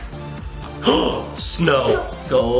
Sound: magical music; gasping for air

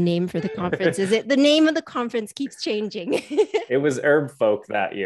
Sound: chuckles; laughs

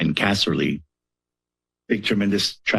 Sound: pause

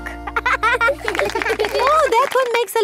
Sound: laughing

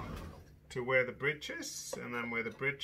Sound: chair pulling

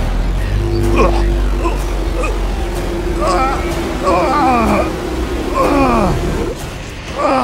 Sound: resonant whispers; retching; grunting; resonant whispers

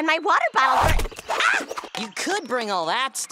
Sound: thud; screams

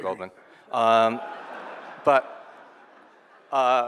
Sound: audience laughing

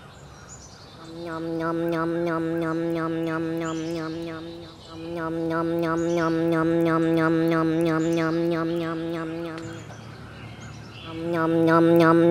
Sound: nom nom nom nom nom nom nom nom

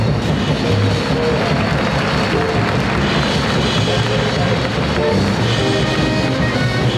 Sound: people cheering

